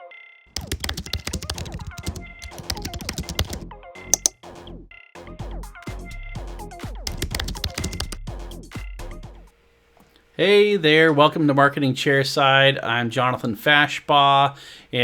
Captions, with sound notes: (keyboard clicking) - Hey there, welcome to Marketing Chairside. I'm Jonathan Fashbaugh.